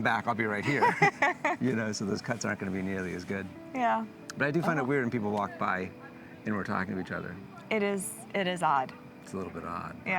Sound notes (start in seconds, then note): 0.6 laughing